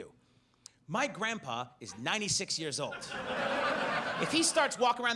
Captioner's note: audience laughs